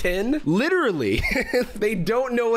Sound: laughs

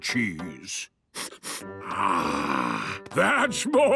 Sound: sniffs

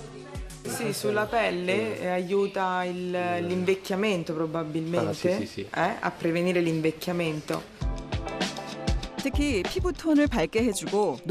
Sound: voiceover

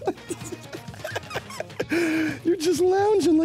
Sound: laughing

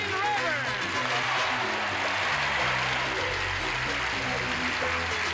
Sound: cheering and applause; upbeat music

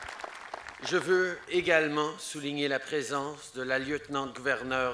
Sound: applause

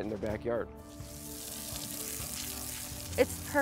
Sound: water splashes

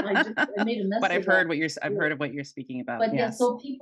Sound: laughing

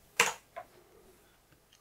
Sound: blank Audio

